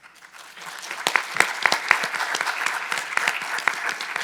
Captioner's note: audience applauding